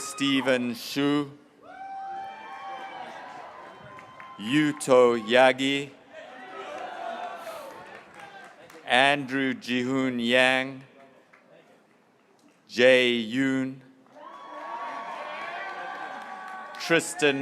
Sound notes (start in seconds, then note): 0.0 graduates cheering; 1.6 graduates cheering; 8.0 graduates cheering